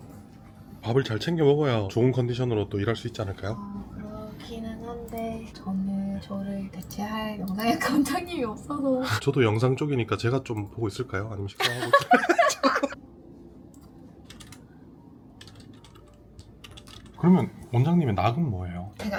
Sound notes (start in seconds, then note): 11.6 laughs